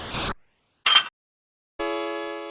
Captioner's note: metallic clank